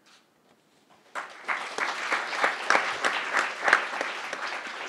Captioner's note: crowd applauding